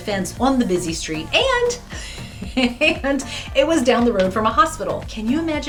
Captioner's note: chuckles